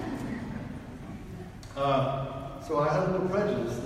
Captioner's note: audience laughs